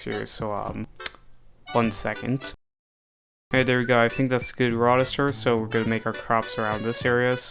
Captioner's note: click